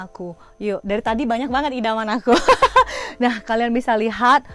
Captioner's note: laugh